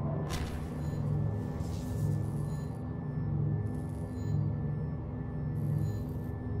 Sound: none

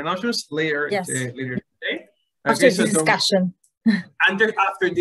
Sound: laughs

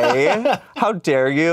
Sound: laughs

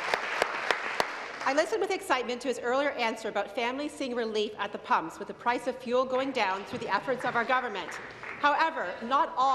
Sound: applause

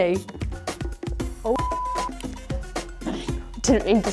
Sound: beep

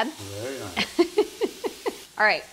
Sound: laughs

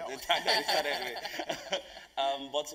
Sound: laugh

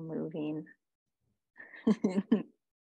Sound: laughter

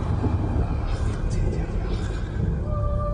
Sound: ominous whispers; solemn singing

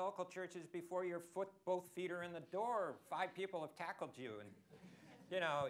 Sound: laughter

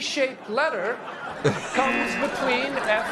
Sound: laughs; buzzer

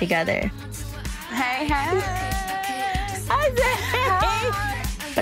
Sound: laughs

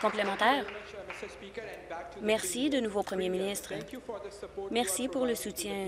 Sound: applause

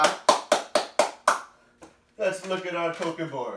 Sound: claps

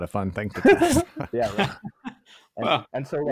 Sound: chuckles

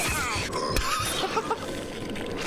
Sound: laughs

